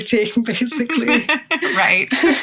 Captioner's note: laughs